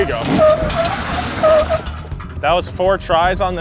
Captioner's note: truck squeaks